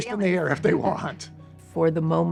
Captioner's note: laughing